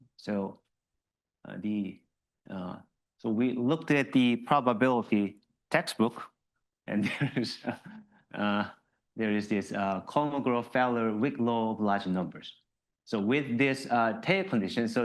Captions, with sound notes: So we looked at the probability textbook, (laughs) and there is this Kolmogorov-Feller weak law of large numbers. So with this tail condition,